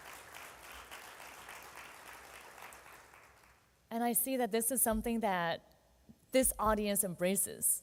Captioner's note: applauding